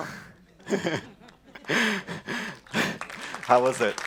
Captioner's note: laughter; applause